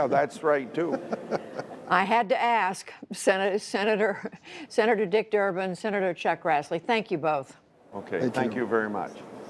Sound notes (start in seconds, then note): 0.8 laughter